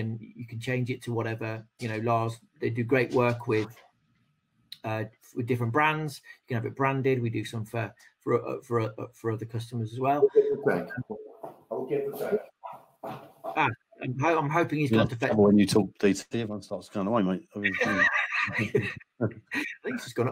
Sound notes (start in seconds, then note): 15.8 speaking faintly